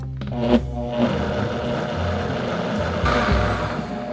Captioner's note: blender running